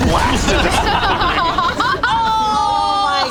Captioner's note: group laughs